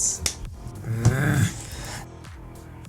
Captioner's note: grunts, growls